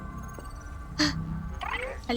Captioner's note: gasps